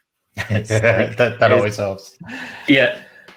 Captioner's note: laughs